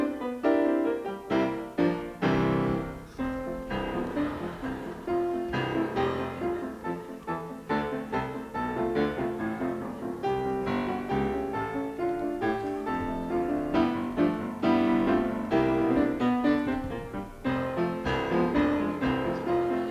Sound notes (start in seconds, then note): 0.1 energetic piano music; 3.8 audience laughter; 5.8 piano music